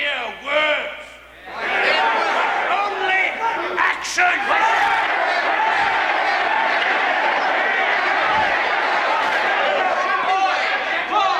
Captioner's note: Aplausos